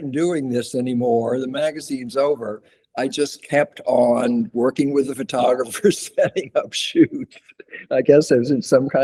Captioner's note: laughs; laughs